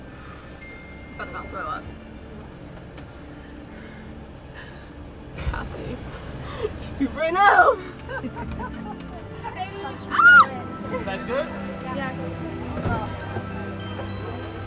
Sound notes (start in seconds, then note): 0.2 Sydney exhaling; 2.4 gentle music; 7.8 chuckling; 10.0 Sydney squealing; 11.9 gentle music